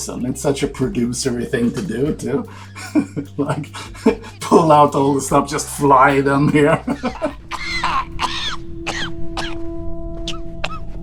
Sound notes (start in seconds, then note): 3.7 laughs; 6.4 coughs